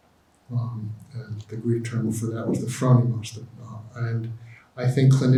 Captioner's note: speaks in Greek